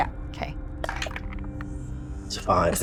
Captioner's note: die rattles